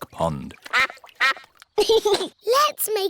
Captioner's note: quacking; giggles